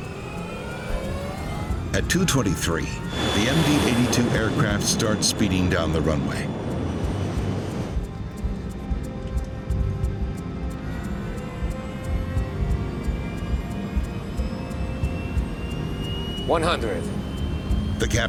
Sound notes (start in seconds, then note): 8.0 engines whirring; 8.0 intense music